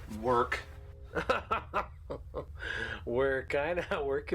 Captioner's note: laughs